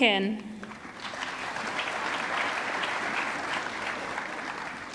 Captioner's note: audience clapping